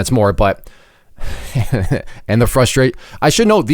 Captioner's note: laughs